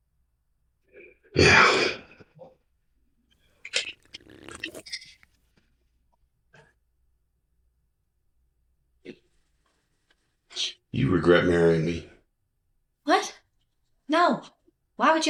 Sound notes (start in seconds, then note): 1.2 Roger scoffing; 3.6 drink slurping